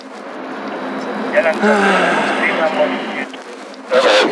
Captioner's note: sigh